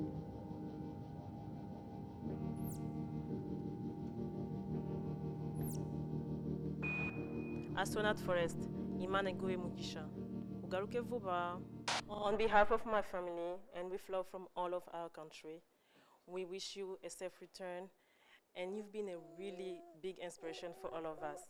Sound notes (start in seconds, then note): 9.5 speaking kinyarwanda